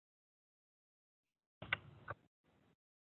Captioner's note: silence